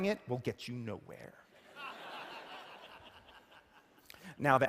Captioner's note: laughter